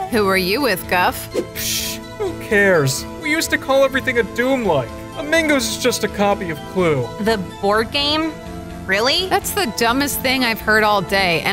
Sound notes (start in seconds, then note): 1.2 scoffs